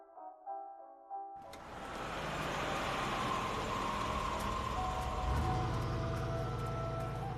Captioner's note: engine rumbling